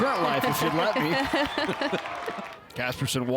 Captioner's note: both chuckle